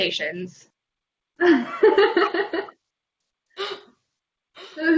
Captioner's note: laughter